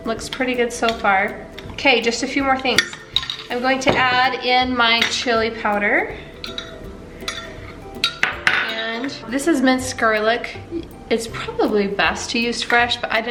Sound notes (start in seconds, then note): 6.7 stirring